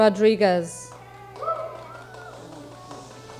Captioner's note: audience cheering; audience shushing